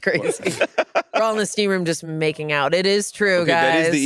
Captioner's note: all laughing